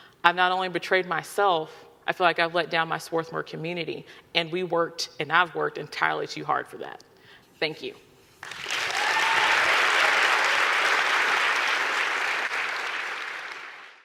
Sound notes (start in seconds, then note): 8.4 audience clapping and cheering